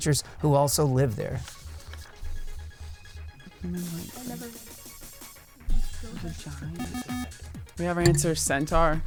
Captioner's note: wispering